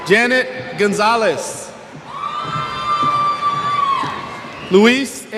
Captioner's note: cheers